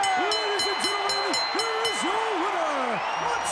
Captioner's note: bell ringing